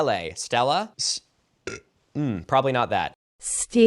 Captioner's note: burps